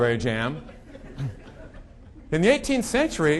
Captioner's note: audience laughing